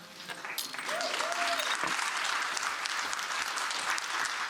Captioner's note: audience clapping